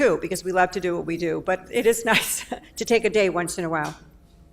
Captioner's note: laughs